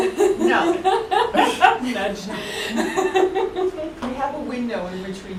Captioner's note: laughter